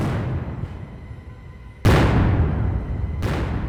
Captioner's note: cannons fire